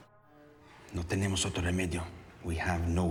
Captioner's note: speaking spanish